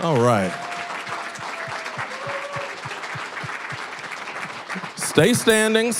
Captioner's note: applause; applause, cheering